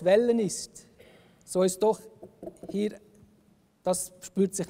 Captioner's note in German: klopft auf Holz